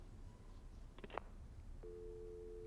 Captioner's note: dial tone